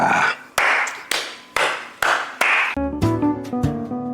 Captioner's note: clap